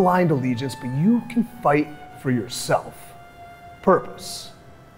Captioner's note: none